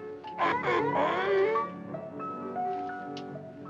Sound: seal barks

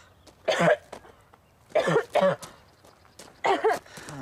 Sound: coughing

